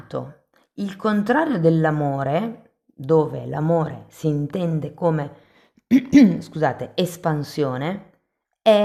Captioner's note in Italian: schiarire la voce